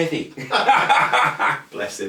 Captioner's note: laughter